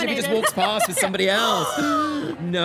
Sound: gasps

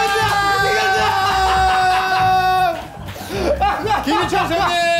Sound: laugh out loud

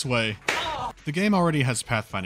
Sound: spank

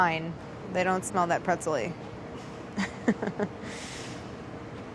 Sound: laughs

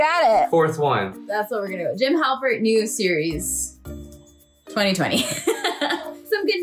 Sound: laughs

